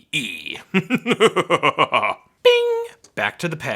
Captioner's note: evil laughing